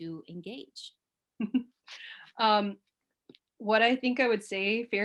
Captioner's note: chuckles